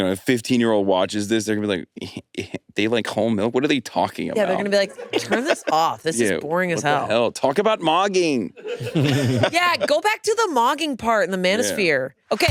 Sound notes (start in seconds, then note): 8.4 all laughing